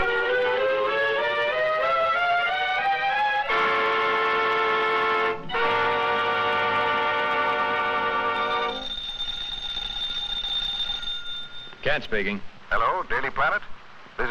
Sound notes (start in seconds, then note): 0.0 light dramatic music; 8.6 phone ringing